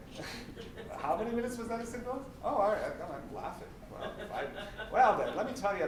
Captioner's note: laughter